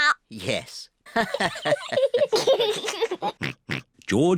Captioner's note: all laugh